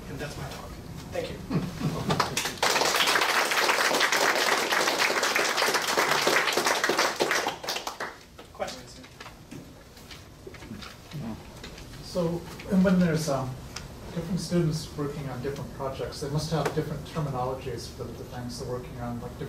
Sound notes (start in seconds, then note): 2.0 laughing; 2.1 audience clapping